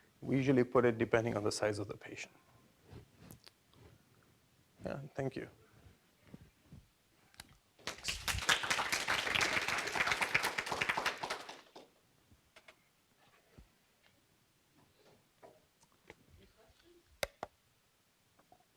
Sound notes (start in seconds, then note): 7.8 crowd applauding